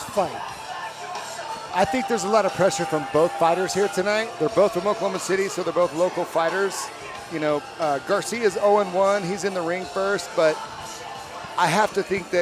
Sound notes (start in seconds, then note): none